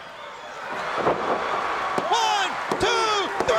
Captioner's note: canvas thumping